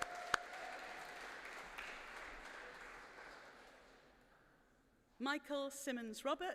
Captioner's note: applause